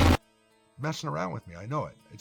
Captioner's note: glitch